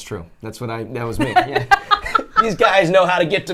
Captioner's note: laughs